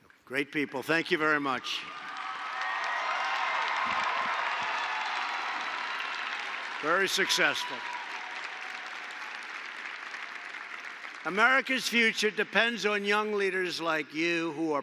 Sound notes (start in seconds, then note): 0.0 applause; 2.5 applause